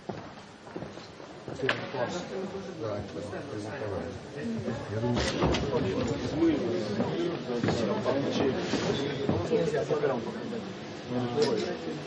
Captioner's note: background noise and comments